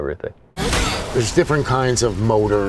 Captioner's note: loud metallic thud